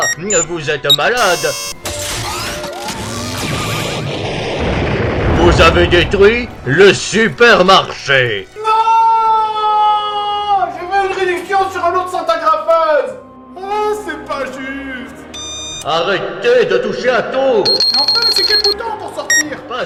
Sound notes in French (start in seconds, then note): 3.0 Explosion